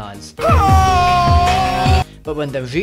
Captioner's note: anguished screaming